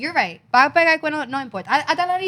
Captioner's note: speaking In Foreign Language